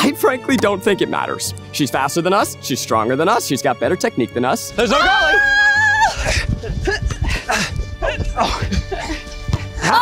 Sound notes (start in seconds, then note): 4.8 sounds of struggle